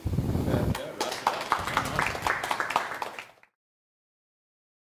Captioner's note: audience applauds